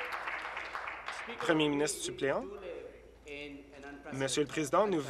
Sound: applause

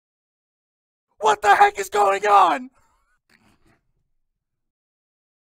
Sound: male scream

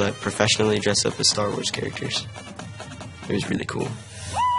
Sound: cheering

